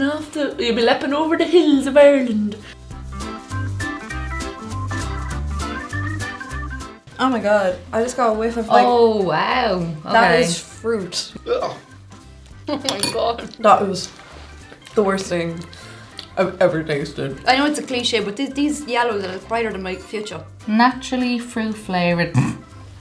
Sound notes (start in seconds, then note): 11.4 sounds of disgust; 22.3 snort